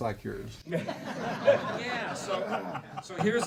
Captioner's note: laughing